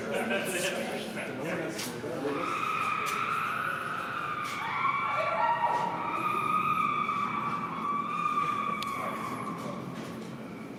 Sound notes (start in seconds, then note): 0.1 indistinct chattering; 6.2 screaming continues